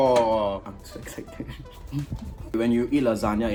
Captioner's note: giGGLes